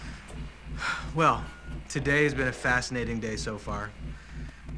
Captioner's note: exhales deeply